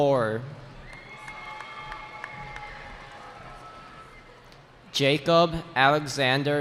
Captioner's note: cheering